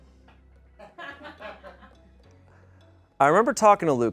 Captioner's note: man laughs off camera